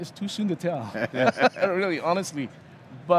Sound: all laughing

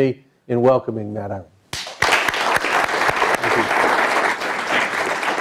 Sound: applause

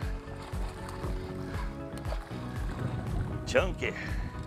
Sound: fish splashing

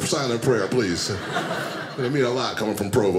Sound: audience laughing

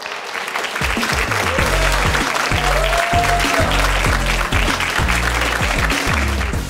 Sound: audience cheering; audience clapping; upbeat music

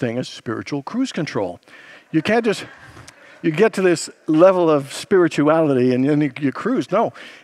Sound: congregants laugh

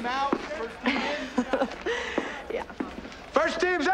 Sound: laughs

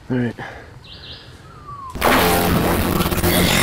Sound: fuzz

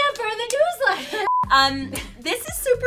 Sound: beep

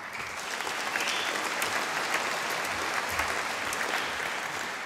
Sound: audience applauding

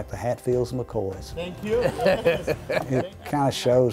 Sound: laughing

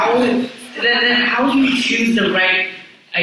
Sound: audience chuckles

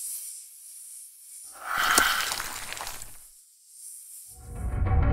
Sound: spell sound

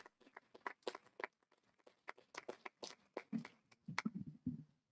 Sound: audience applauding

